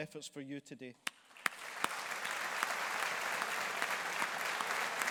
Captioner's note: audience applauding